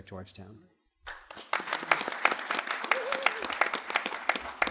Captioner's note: applause